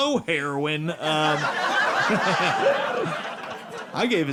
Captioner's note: audience laughing